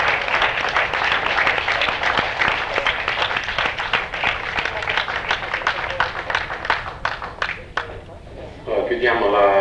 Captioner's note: applause